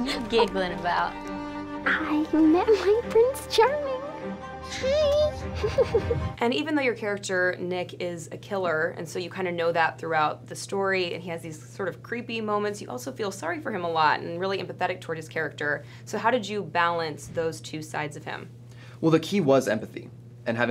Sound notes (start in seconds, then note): 5.5 giggles